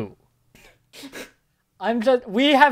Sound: someone chuckles

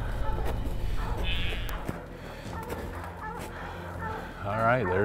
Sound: dogs barking

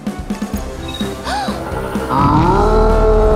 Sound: gasps

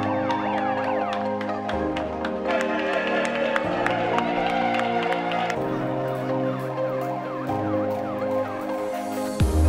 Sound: clapping and cheering

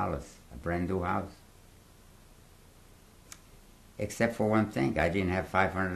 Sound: pauses for 3 seconds

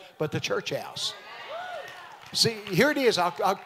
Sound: congregation amens

